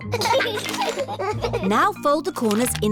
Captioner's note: both giggling